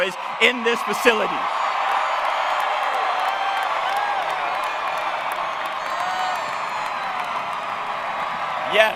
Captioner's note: cheering